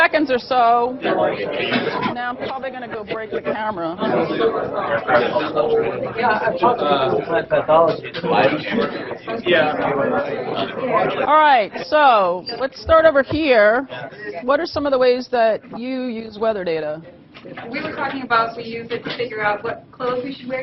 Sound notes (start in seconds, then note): 5.7 audience chatter